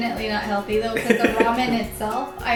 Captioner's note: giggling